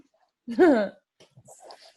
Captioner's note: chuckles